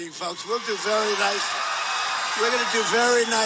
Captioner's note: crowd cheering